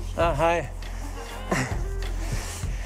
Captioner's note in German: Lachen